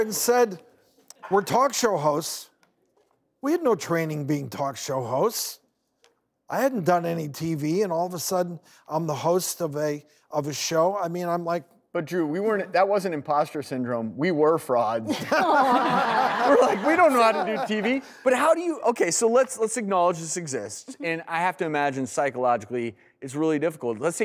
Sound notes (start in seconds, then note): 15.2 laughing